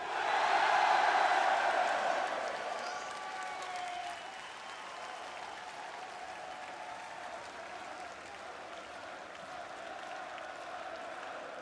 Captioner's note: crowd cheering